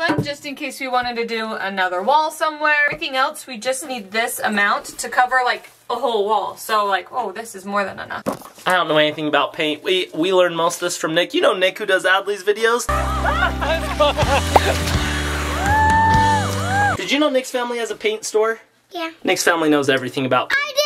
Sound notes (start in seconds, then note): 12.9 group cheers